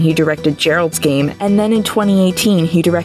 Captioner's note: none